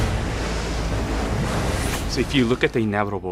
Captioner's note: water crashing